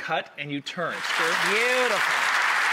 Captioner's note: audience applause